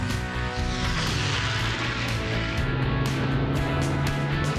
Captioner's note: engine roaring